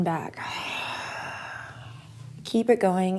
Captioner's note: exhales